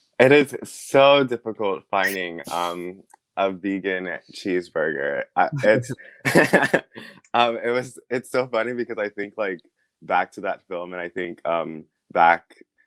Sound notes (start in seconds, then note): 4.8 chuckles